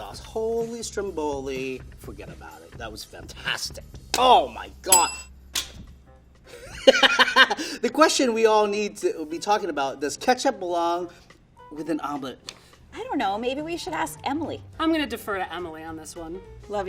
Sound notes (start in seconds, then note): 4.9 bell rings; 5.7 laughing